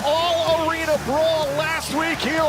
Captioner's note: crowd cheering